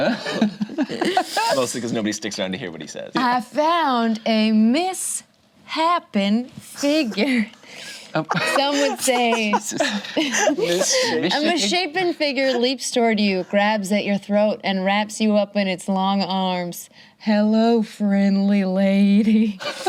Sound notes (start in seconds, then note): 0.1 laughs; 9.6 group laughs